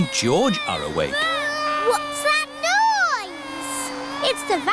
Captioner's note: vacuum cleaner whirring